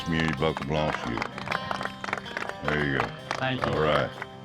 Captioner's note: cowboys clapping